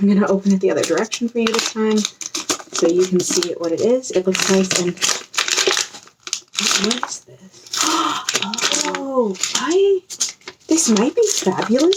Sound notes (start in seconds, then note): 6.4 wrapping paper crinkle noises throughout; 7.3 gasps